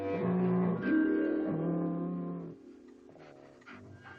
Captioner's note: dog growling